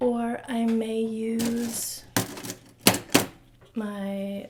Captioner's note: rattling